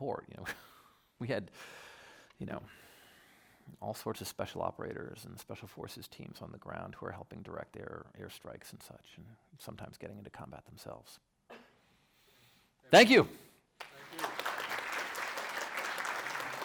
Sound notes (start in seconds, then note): 13.8 audience applauding